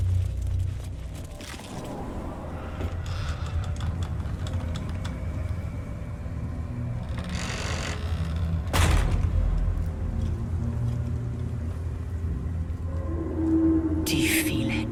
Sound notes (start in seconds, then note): none